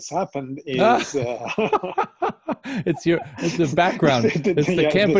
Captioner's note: laughs